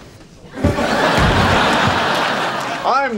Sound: audience laughing; Ross thuds on the floor

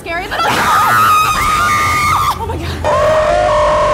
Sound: screaming

